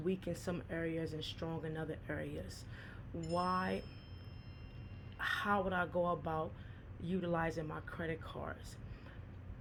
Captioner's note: phone chimes